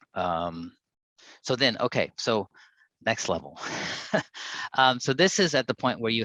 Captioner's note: chuckles